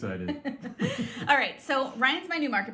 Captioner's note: both laugh